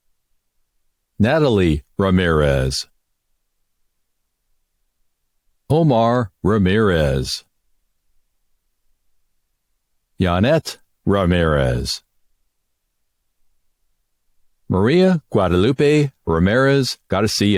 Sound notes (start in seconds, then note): none